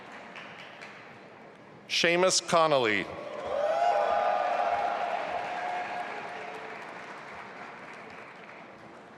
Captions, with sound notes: Seamus Connelly. (audience applauding)